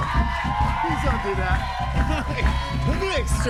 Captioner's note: cheering